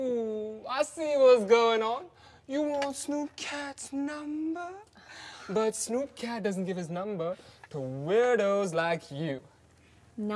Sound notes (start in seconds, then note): none